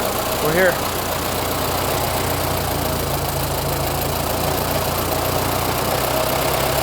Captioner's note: engine idles